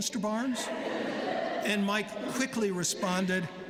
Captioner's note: laughter